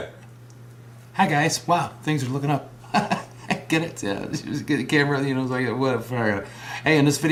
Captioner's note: laugh